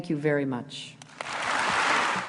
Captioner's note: applause